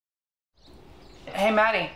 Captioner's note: birds chirping